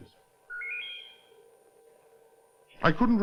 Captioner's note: trilling